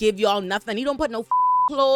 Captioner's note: beep